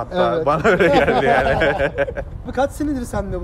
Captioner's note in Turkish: gülüşme